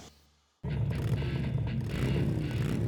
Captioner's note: engine revs